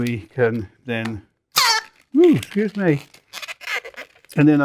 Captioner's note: balloon squeekes